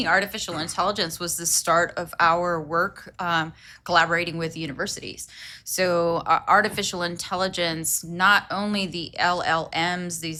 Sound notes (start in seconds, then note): none